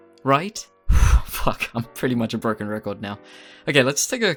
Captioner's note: sigh